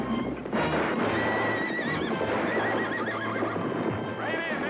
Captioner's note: whinnying